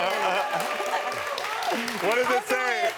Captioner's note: audience clapping